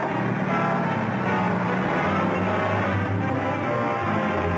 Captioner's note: engine revving